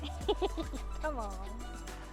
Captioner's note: woman laughs